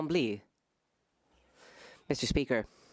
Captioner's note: speaking French